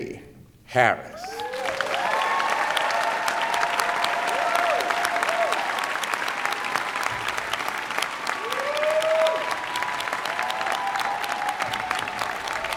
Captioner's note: cheering